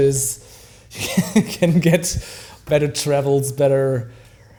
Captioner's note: laughs